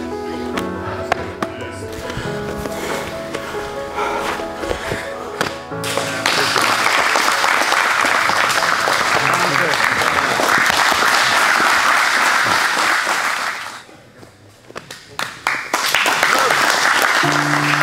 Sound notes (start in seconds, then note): 1.8 panting; 7.3 spectators applauding; 9.6 speaking drowned out by applause; 15.1 spectators applauding